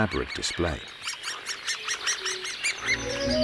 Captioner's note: babies peeping